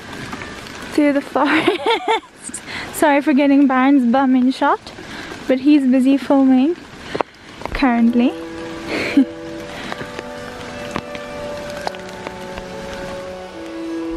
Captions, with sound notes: through the forest. (laughing) Sorry for getting Byron’s bum in shot, but he’s busy filming. Currently.